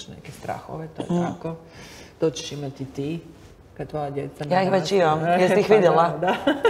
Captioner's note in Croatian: smijeh